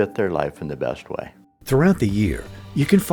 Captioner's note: voiceover